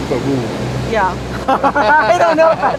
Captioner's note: both laughing